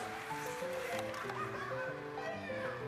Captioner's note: laughs